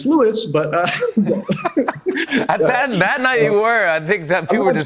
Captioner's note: both laugh